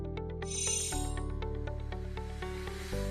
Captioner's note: chiming